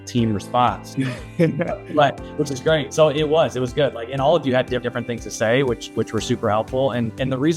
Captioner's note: laughs